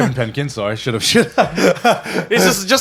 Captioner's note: laughs